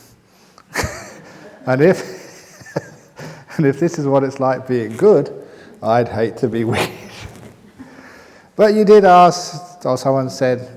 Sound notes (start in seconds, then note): 0.7 chuckles